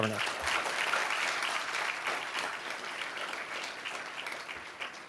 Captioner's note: audience applauding